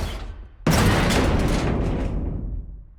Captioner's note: bang!